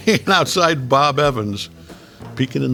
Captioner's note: J.K. chuckling